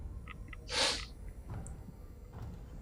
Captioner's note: sniffs